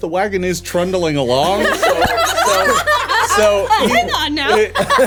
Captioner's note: everyone laughing